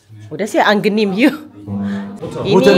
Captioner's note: speaking German